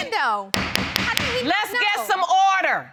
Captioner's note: gavel banging